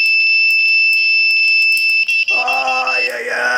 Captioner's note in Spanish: campana